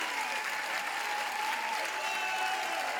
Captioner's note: applauding continues